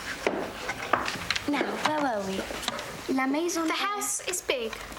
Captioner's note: speaking in a foreign language